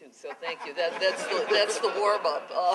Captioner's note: laughter